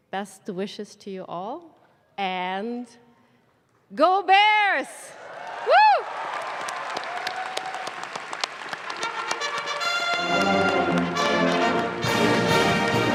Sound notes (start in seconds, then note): 5.2 audience claps; 9.0 instrumental music